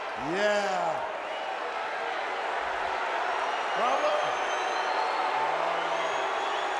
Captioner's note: crowd cheering